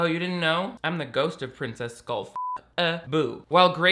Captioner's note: beep